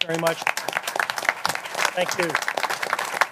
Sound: applause

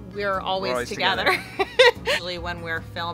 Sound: laughs

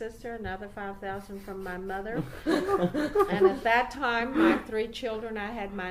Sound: interviewers are laughing by now

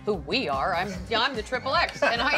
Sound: laughing

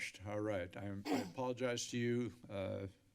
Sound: clear throat

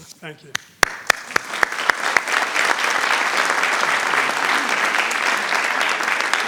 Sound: applause rings

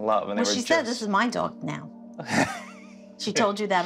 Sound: laughs

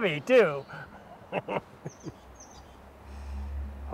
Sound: giggles

